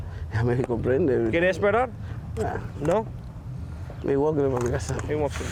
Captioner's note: speaking spanish